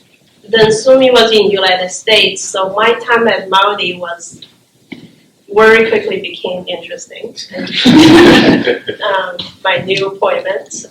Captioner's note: laughter